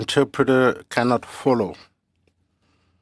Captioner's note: speaking french